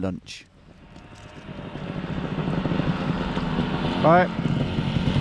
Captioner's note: engines rumbling